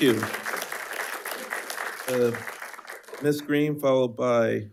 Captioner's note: attendees applauding